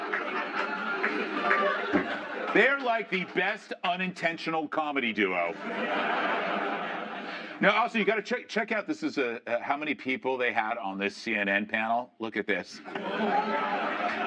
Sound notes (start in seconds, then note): 8.1 laughter